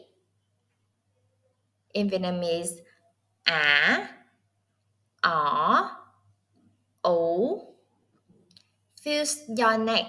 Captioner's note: Vietnamese